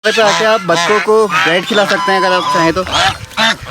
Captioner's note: ducks quacking